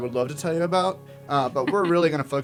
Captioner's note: laugh